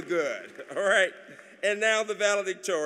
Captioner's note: applause